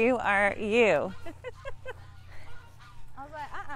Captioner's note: laughs